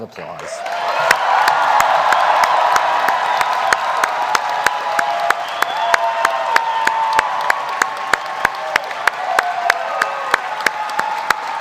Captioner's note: applause; cheering